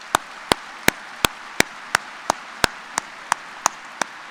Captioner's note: applause